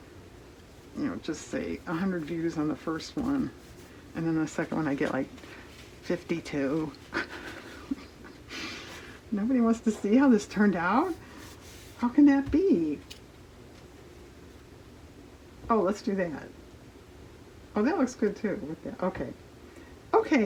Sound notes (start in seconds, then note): 7.1 laughs